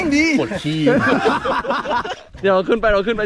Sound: laughs

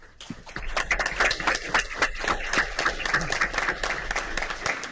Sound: audience applauds

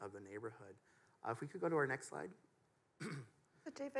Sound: clears throat

